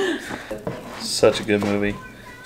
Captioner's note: laughing